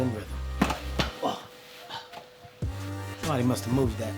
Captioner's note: grunts